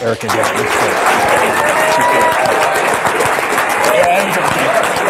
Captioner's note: applause, cheering